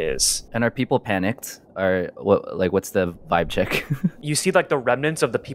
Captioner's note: laughs nervously